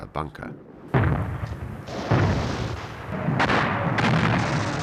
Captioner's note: heavy artillery booming